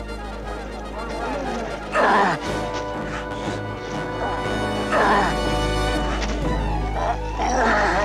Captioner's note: Samson growling; ropes snapping